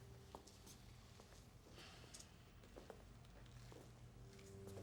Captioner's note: footsteps shuffle